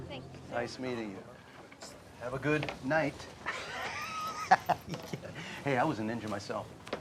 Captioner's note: laughs